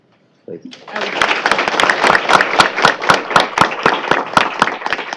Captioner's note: applause